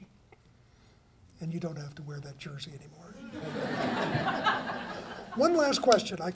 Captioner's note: laughter